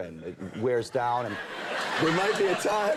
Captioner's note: audience laughing